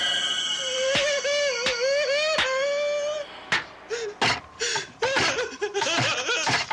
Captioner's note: Casey clapping; Casey crying